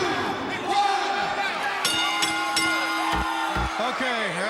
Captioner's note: bell ringing